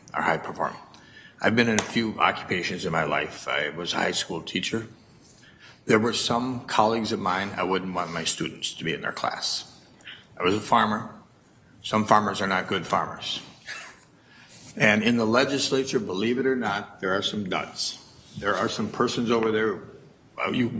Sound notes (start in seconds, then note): 13.6 chuckles